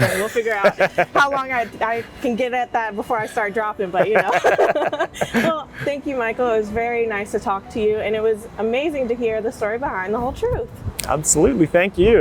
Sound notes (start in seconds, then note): 0.0 laughing; 3.8 both laughing